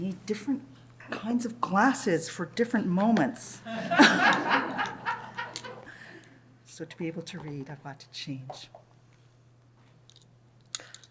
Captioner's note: laughter